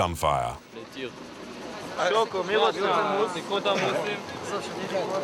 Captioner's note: French spoken audio